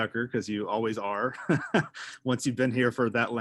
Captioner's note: laughing